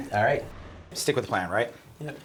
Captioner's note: whooshing